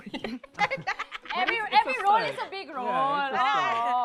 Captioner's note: laughs